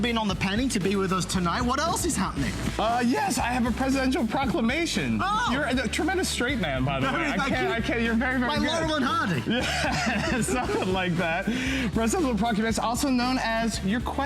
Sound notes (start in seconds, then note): 9.1 laughter